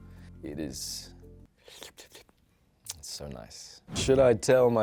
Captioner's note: slaps lips